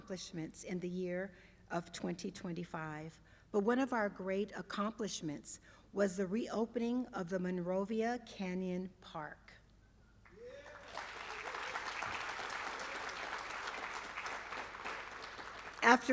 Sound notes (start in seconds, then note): 10.3 applause